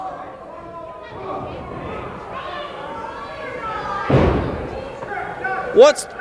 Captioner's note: crowd noise